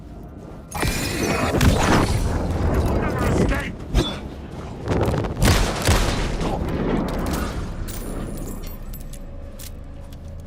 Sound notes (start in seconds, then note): 2.3 gun firing; 5.4 gun firing; 5.9 dramatic music